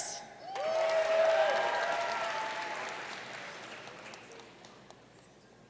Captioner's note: audience cheering and applauding